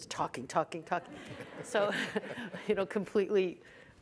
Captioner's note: audience laughs